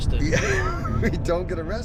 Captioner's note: chuckles